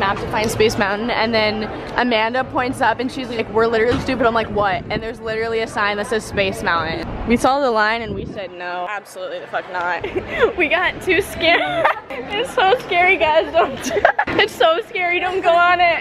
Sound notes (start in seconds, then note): 11.3 laughs